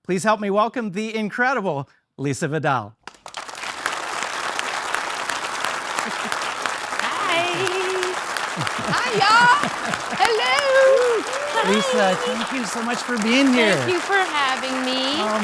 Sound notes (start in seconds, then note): 3.3 audience applauding